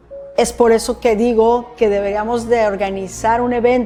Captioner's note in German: Spanisch sprechen